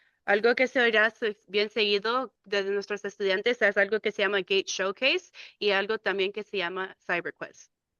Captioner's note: speaking in Spanish